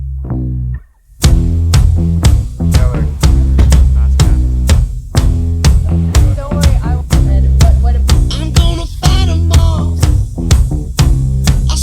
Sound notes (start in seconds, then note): 2.8 vehicle door shuts